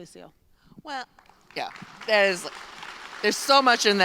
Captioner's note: applause